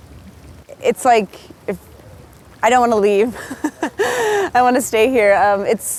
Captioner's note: laughing